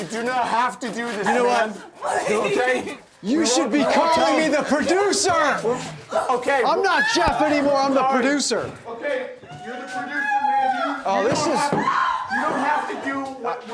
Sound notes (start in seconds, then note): 3.2 sobbing